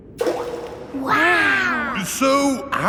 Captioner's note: rock plops